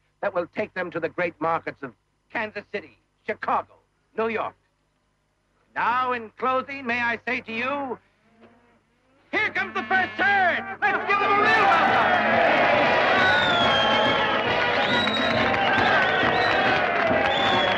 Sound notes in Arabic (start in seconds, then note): 10.8 هتاف الجمهور يغرق الكلام; 13.6 موسيقى مبهجة